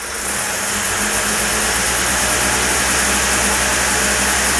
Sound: engine roars

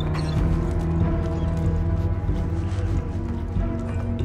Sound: dog whining; dramatic music

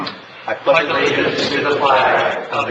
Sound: crowd

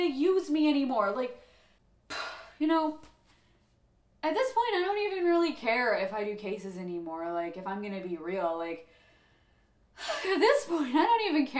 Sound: sigh

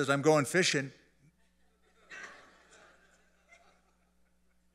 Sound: laughter

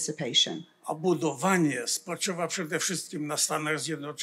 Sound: foreign language

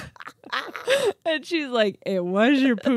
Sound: laughs

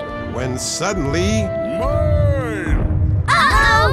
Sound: distant voice

